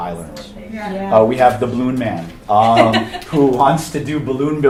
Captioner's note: attendee laughing